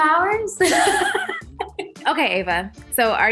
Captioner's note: laughing